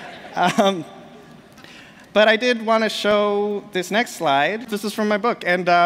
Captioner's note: laughter